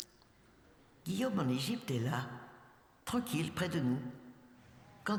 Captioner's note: speaking french